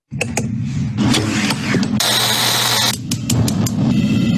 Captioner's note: screen swooshing